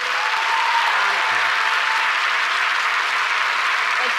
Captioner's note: audience applauds